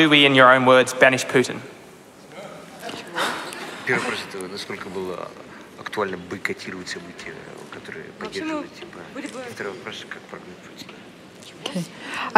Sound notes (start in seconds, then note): 4.2 foreign Language